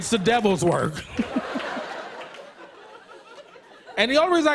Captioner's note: laughter